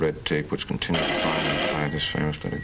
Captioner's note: telephone rings